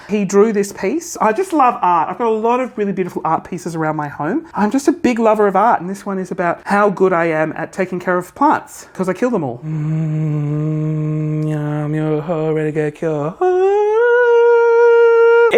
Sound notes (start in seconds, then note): 10.3 chanting